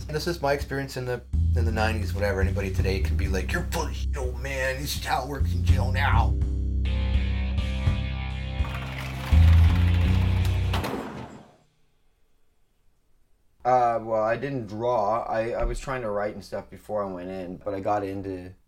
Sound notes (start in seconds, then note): 10.6 slam shut